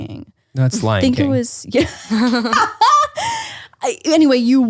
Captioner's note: laughs